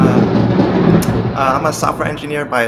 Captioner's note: thunder cracking